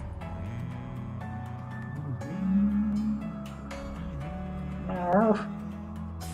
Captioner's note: humming along